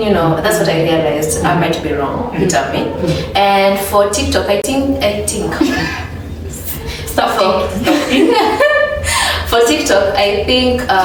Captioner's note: laughs